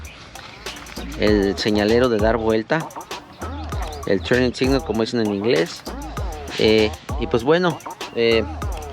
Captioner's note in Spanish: turning signal